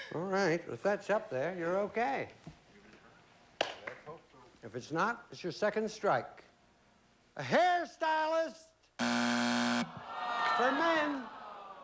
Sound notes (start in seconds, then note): 9.0 buzzer